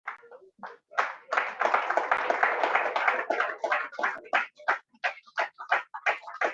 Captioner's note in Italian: Applauso